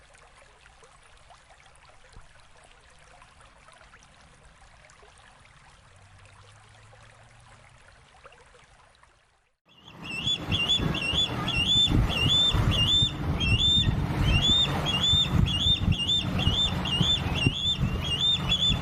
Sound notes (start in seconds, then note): 0.6 wind blowing; 8.8 birds chirping; 11.8 wind blowing